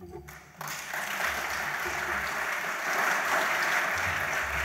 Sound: audience applauds

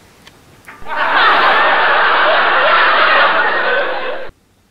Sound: laughing

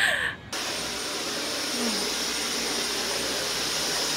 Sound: our noisy Dyson vacuum at the background

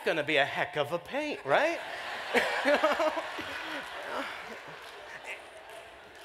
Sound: laughter

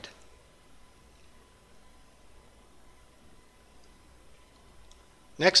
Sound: pause

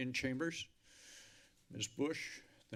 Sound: inhales

